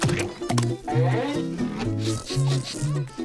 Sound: sniffing

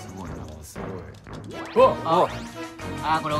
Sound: various sounds of surprise

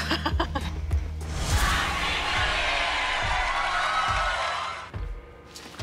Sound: emily chuckles; cheering

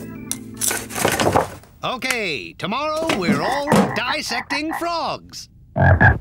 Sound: croaking; croaks

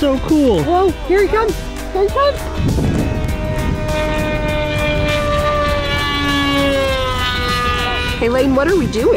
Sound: plane loudly fly’s

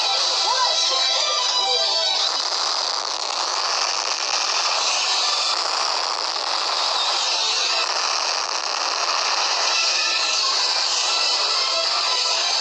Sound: explosions continue

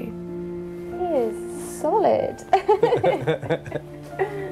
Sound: laughs

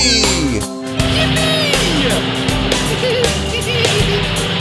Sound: engine rumbling

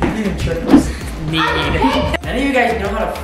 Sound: yelling

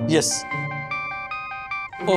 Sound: phone ringing

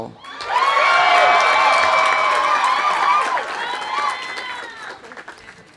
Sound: audience cheering; audience applauding

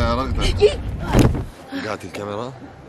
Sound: gasps

